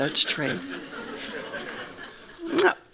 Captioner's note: laughing